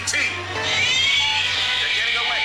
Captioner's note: e.t. cries